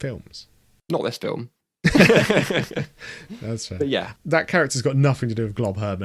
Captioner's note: both laugh